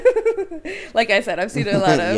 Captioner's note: both laughing